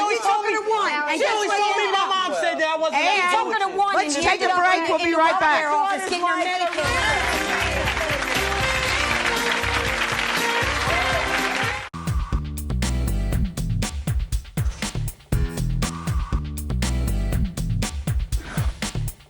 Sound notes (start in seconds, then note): 6.4 applause; 6.5 upbeat music